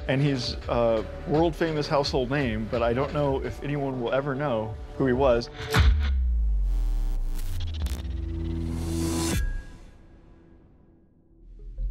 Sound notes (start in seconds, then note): 6.5 electricity whirring